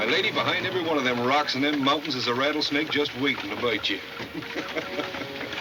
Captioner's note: laughs